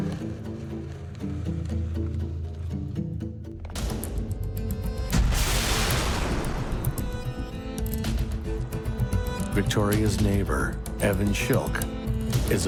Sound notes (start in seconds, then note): 0.2 intense music; 5.0 thunderous explosion; 5.1 glass crashing